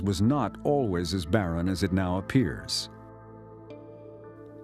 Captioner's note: none